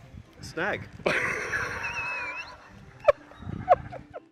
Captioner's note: man laughing